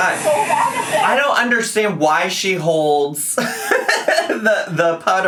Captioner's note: laughs